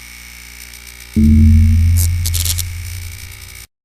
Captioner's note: buzzing